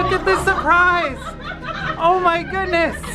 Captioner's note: laughs